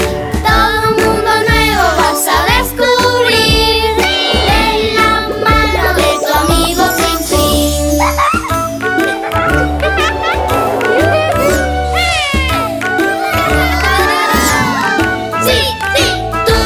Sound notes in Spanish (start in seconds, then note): 7.9 Música alegre; 9.0 Risas